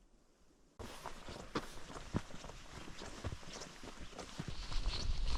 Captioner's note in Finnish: askelten ääniä